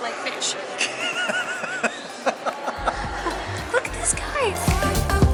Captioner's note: laughter